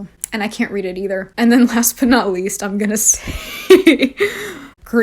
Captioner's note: laughs